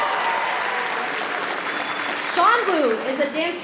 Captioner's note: applause; cheering; whistle